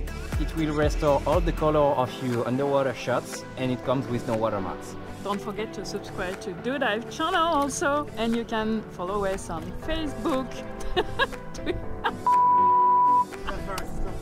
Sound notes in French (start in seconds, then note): 10.8 rires